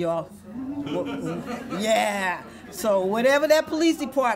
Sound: audience laughs

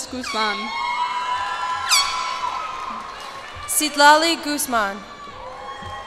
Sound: cheers and applause

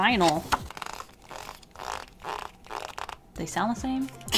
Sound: scrubby noises

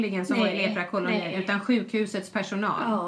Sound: foreign language

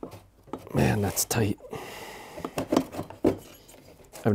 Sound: sighs

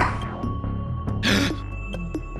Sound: gasp

